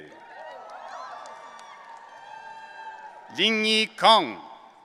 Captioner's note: audience cheering